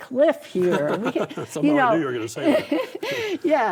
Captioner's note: laughs